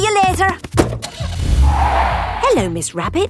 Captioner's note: car starting; tires screeching